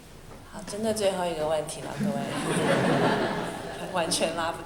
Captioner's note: Mandarin; laughter